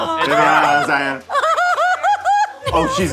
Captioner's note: laughing